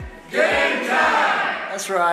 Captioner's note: crowd